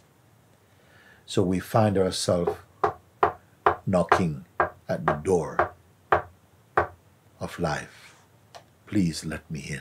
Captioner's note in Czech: zvuk klepání